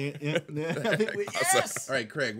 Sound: group laughing

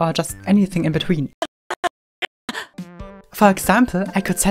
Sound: fragments of groan

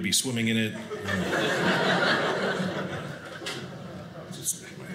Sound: audience laughing

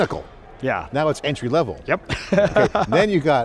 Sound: laughs

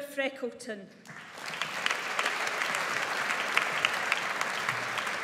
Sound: audience applauds

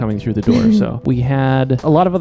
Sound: laughing

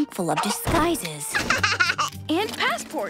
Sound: laughing

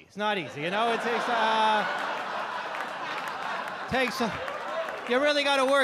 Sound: audience laugh

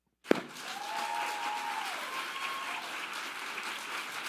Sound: audience applauding

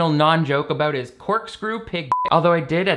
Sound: beep

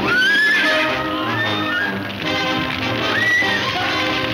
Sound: woman screaming; dramatic music

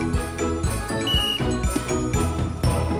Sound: sports whistle blows

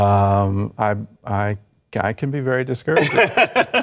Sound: laughter

